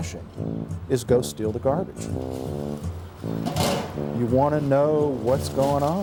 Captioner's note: lid clanking